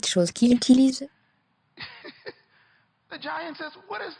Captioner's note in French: en riant